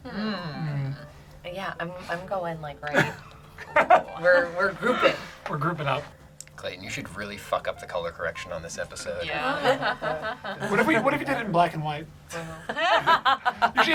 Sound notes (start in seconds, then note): 2.9 laughs